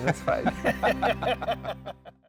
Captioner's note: both laughing